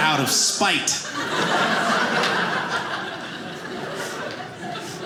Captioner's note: audience laughing